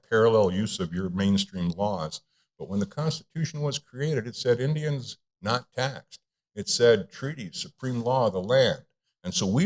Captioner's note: none